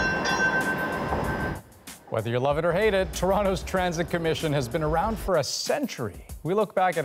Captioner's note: bell clanging